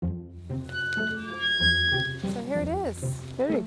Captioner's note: gate squeaking